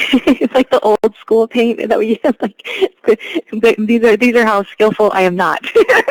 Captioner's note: laughs